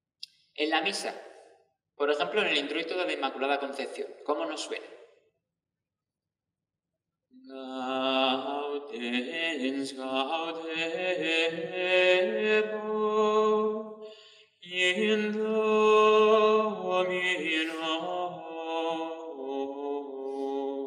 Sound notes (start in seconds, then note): 7.7 chant